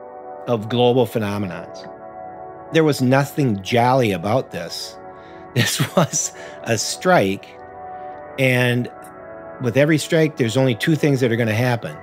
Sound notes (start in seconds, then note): 5.5 laughs lightly